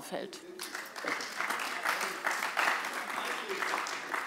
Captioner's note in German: Beifall bei der CDU und dem BÜNDNIS 90/DIE GRÜNEN